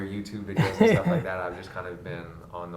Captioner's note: Gary laughs